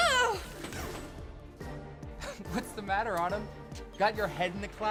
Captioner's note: laughs